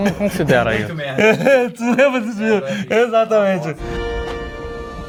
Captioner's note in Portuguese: risos